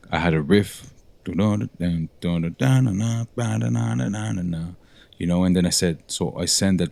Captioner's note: humming